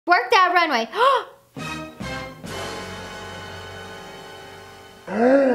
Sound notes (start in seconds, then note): 0.9 gasping; 1.5 dramatic music; 5.1 gasping